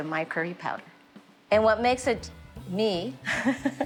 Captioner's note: laughs